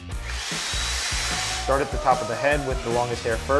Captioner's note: vacuum whirs